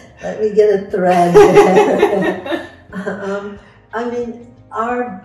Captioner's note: laughs; both laughing